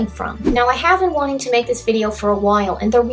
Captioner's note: swoosh